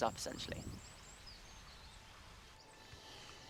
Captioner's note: birdsong